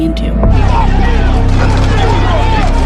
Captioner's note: shouting